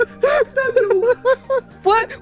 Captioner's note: laughter